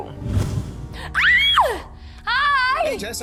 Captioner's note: screams